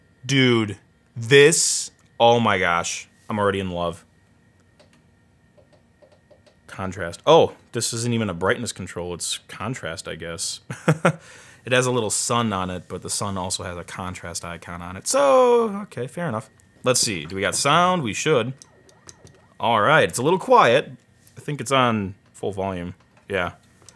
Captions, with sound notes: Dude, this, oh my gosh. I'm already in love. Contrast, oh, this isn't even a brightness controller. It's contrast, I guess. (chuckles) It has a little sun on it. But the sun also has a contrast icon on it. So, okay fair enough. We got sound, we should. Alright, it's a little quiet. I think it's on full volume, yeah.